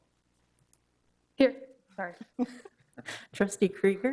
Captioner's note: laughing